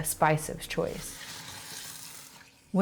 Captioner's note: food sizzling